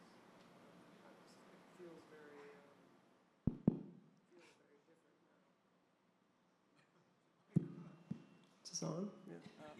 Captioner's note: taps microphone